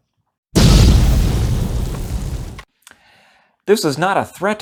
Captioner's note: explosion